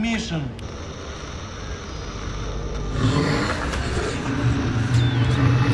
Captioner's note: static hisses; growling